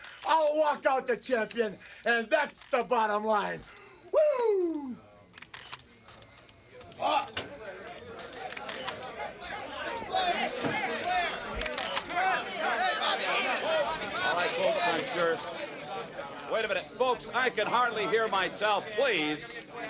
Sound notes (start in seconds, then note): 4.4 cameras click; 6.9 someone coughs; 8.7 reporters chatter indistinctly; 11.0 cameras click